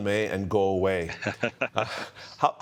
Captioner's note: chuckling